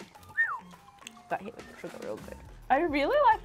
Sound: whistles

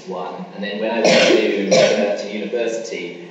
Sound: coughing masks speaker

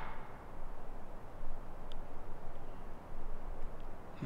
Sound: wood tapping

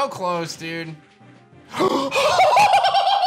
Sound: gasps

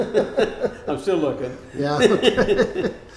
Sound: laughing

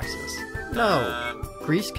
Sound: buzzes

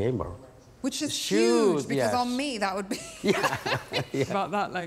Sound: laughing

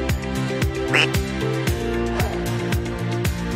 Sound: soft music; duck quack; soft music

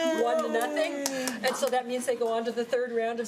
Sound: applause

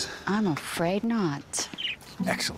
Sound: budgie twittering

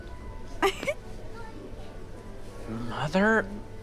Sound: laughing

